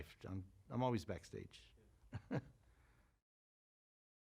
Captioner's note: chuckles